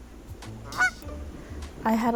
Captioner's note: goose Honking